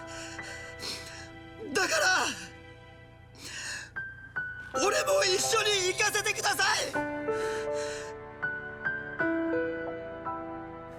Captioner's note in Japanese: 鼻息